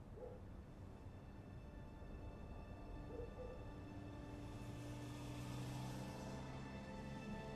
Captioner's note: engine rumbling; soft music